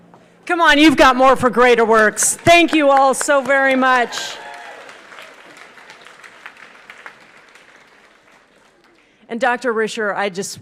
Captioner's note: applause